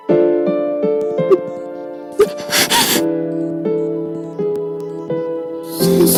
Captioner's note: sobbing